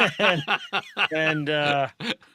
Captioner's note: laughing